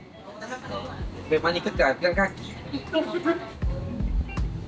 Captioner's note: laugh